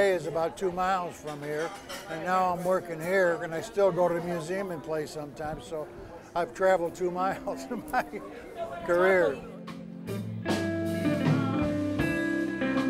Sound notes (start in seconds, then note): 7.4 laughs; 8.8 guitar music